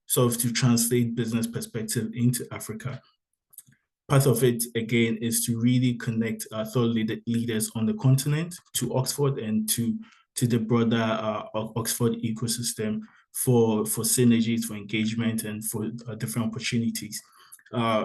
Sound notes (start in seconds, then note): none